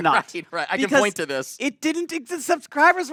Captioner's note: laughs